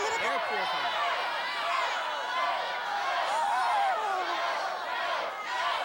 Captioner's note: cheers